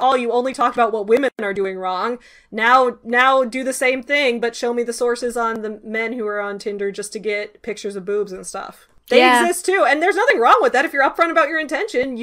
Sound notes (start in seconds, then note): none